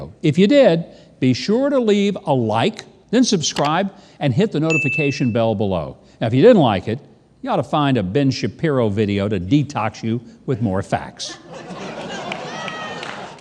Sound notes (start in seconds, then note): 4.7 bell ringing; 11.3 audience laughing